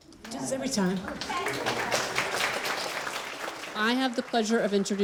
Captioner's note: crowd clapping